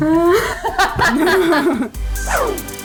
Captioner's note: laughing; techno music